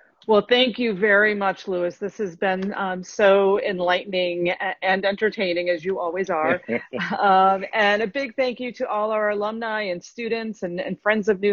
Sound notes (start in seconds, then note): 6.4 laughter